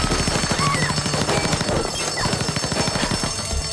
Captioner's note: bullets pinging; gunfire; woman screams; alarm continues blaring